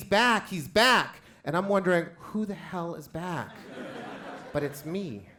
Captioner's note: crowd laughs